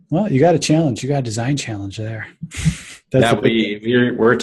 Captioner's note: laughs